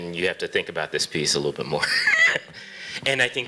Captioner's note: chuckles